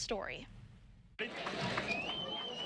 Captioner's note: cheer